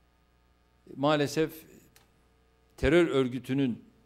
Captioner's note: non-english speech